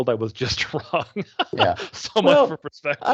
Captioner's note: laughing